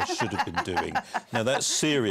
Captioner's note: laughter